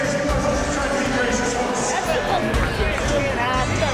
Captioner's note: crowd Noise